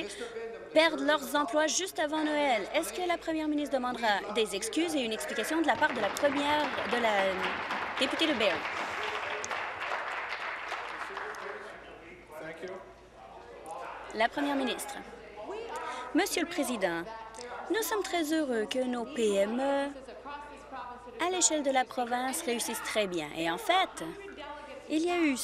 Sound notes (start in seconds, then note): 9.3 applause